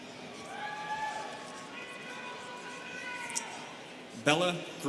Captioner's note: students cheering